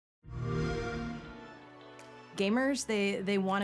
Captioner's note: xbox sound